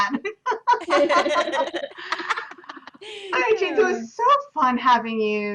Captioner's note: laughter